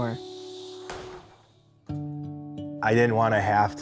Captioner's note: door closing